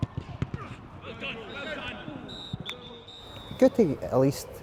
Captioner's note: whistle blowing